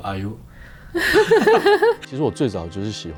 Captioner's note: laughs